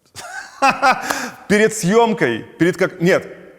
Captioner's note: laughs